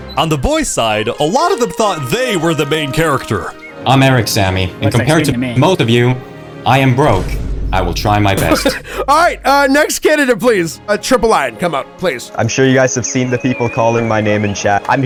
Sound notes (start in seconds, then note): 8.4 laughs